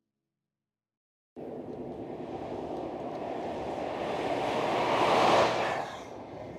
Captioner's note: truck roars past